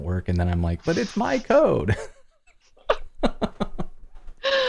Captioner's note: laughter